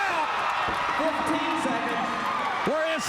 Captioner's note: crowd cheering